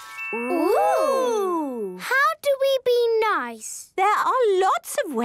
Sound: none

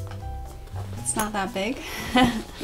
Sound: laughs

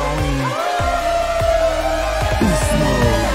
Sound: howls

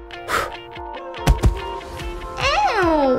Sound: thud!

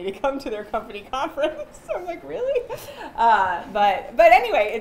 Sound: chuckles

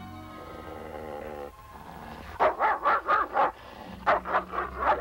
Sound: Shep growling and barking

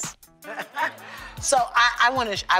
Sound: laughter

